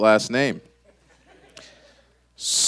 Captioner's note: hushed laughter